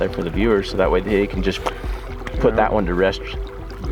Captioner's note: smacks lips